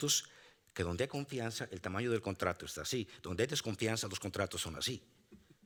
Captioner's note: speaking Spanish continues